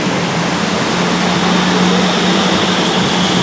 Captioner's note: train arrives into the station